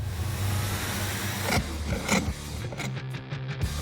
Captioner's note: sawing